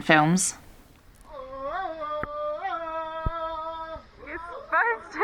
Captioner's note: Tarzan noises